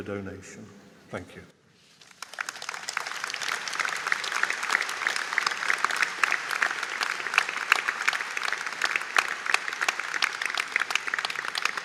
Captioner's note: audience Applause